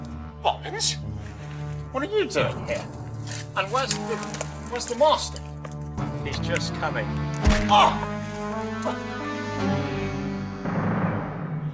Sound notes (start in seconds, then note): 7.4 whacks